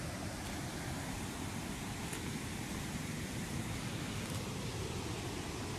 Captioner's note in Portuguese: som de água jorrando